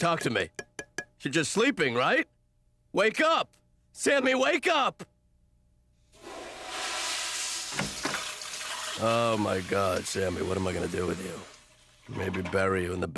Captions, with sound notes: SAMMY, TALK TO ME. YOU'RE JUST SLEEPING, RIGHT? WAKE UP. SAMMY, WAKE UP! (toilet flushing) OH, MY GOD, SAMMY, WHAT AM I GOING TO DO WITH YOU?